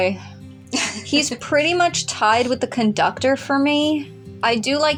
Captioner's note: chuckle